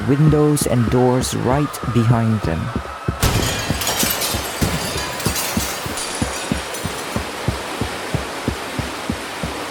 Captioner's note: windows breaking, water gushing in